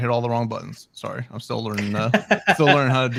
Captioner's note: laughing